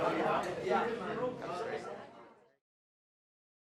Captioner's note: people chattering